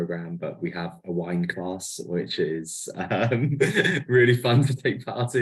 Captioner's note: laughs